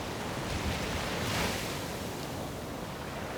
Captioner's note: waves crashing